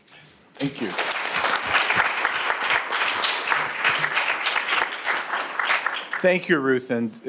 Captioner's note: applause